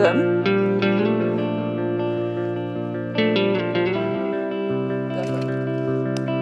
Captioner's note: tender music; speaking quietly